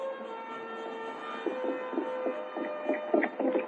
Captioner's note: horse galloping